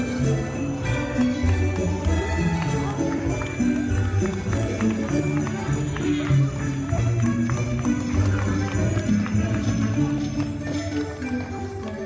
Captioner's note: holiday music playing; guests clapping